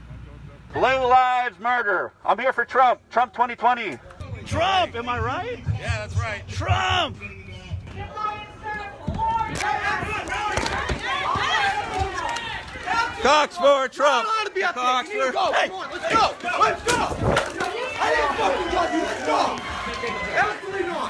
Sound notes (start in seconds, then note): 8.4 random shouting; 17.9 muffled shouting